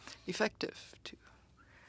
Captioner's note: speaking French